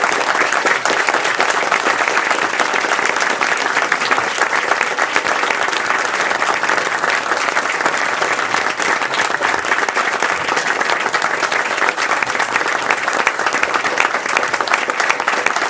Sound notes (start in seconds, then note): 3.9 applause